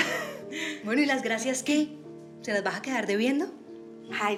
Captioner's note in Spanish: risas